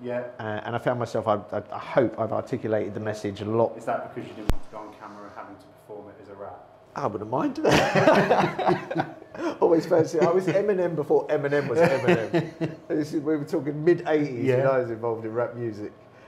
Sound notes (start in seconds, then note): 7.6 laughing